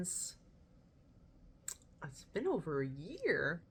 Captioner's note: mouth click